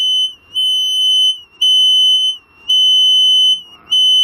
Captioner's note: energy detector device beeping and whistling